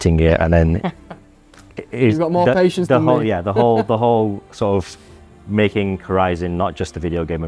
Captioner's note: laughs